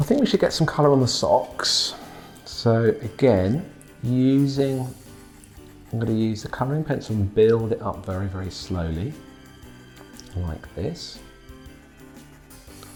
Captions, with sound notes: I think we should get some colour on the socks, so again, (pencil scratching) I'm gonna use a colouring pencil to build up very, very slowly like this.